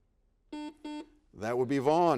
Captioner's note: buzzer beeps